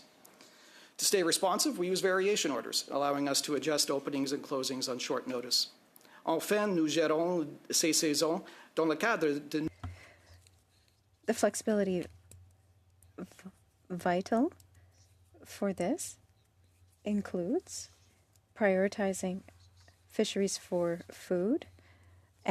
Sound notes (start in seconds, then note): 12.5 speaking French